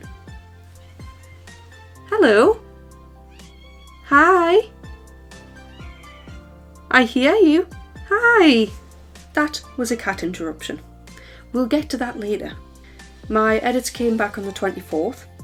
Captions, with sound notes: Hello. [MEOW] Hi! [MEOW] I hear you. Hi. That was a cat interruption. We'll get to that later. My edits came back on the 24th,